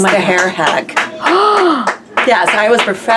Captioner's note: Leslie gasps